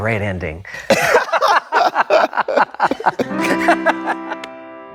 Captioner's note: both laughing; light music